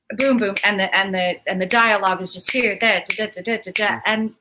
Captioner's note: snaps